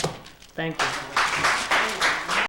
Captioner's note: applause